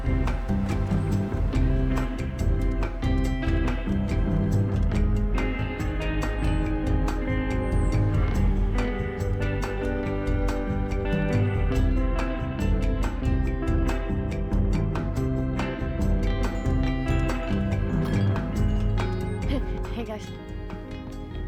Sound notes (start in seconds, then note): 0.2 upbeat music continues; 9.9 upbeat music continues; 18.4 bells jingle